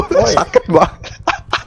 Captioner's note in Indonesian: ketawa